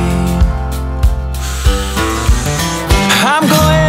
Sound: sucking in air

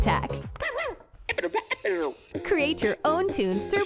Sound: dog barks and plays music

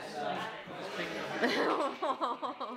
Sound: laughs

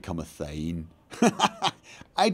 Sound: laughs

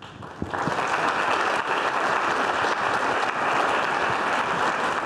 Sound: audience clapping

